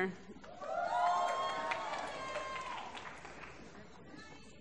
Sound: applause

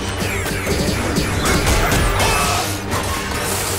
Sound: clanking

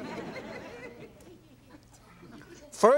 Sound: audience chuckles

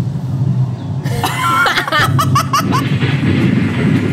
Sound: laughing

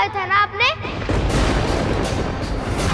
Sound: thundering

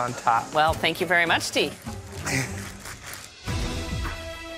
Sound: chuckles

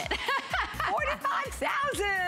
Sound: laughter

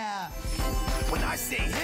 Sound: excited chatter

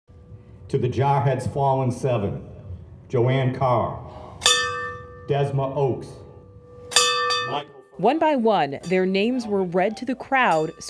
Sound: bell ringing

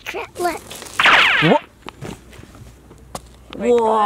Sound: computer sound

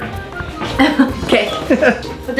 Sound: laughs

